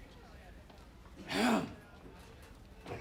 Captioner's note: clears throat